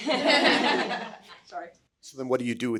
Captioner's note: everyone chuckling